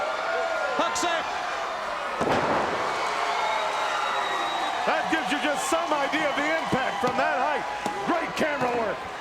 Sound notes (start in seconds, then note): 2.9 applause